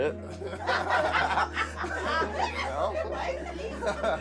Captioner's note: all laughing